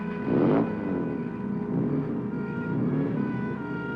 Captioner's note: engine revving